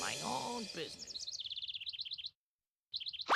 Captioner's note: twittering